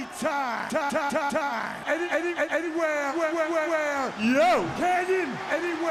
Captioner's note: crowd chatter